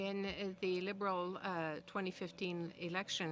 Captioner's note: speaking French